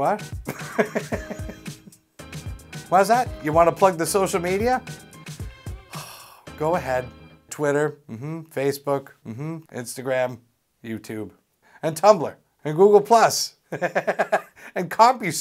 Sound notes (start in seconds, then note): 0.5 laughs; 5.8 sigh; 13.8 laughs